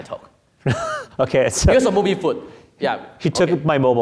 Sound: laughing

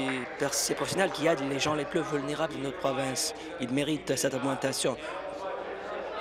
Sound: applause

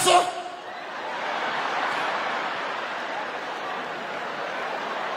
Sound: audience laughing

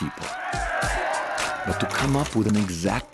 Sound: crowd shouts

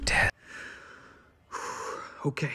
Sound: breath

